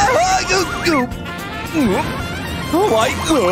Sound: groans

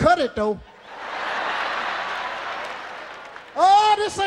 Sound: audience laughing

